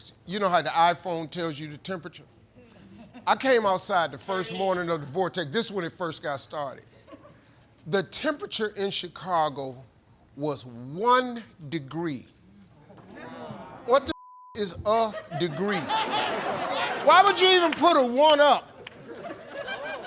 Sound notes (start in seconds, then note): 14.1 beep; 15.0 laughter